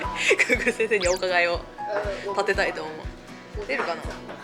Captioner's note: laughs